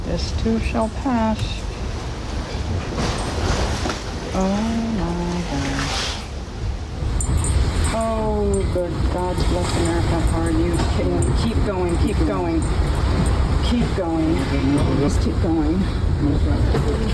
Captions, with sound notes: This too shall pass. [wind and waves] Oh my gosh. Oh good, God bless America, are you kidding? Keep going, keep going, keep going, just keep going.